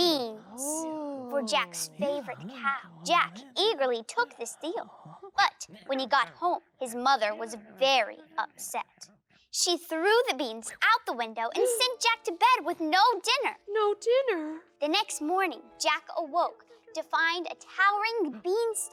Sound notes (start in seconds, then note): 13.6 gasp